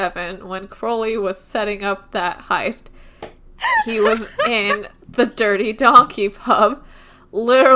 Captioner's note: laughing